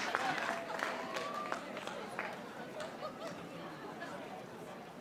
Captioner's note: audience chattering